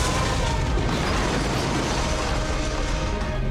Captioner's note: man screams; objects clatter